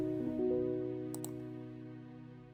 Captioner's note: keyboard clicks; gentle piano music ends